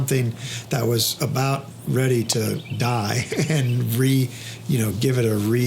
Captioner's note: chuckles